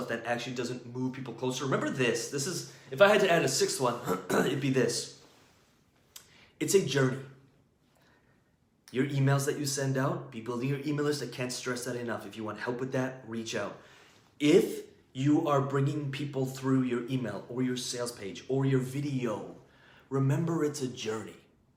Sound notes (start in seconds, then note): 4.0 clears throat